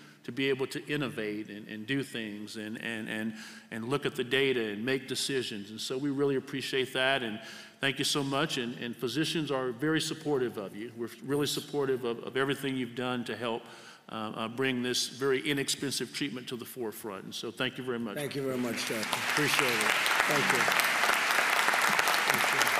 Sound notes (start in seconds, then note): 18.4 applause